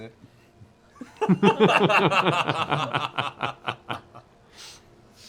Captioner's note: laughter